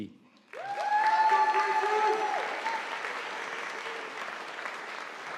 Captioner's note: audience applauding